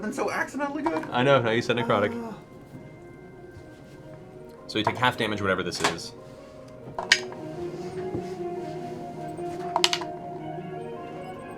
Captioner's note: chuckles